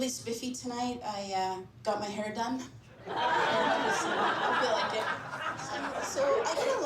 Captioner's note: laughter